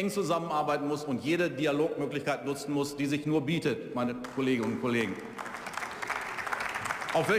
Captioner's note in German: Beifall